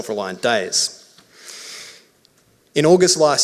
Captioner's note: inhales deeply